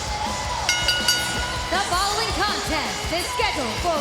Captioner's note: bell ringing